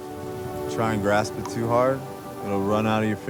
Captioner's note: water dripping